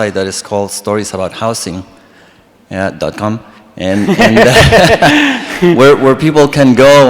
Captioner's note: all laugh